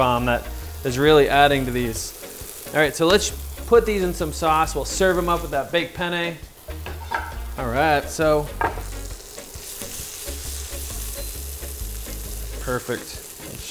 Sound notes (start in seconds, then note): 9.7 sizzling